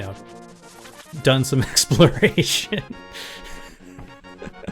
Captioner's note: laughing